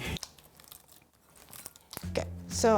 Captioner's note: sticky sounds